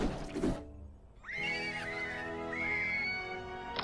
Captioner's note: screams of Joy